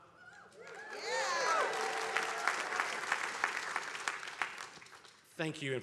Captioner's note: attendees applauding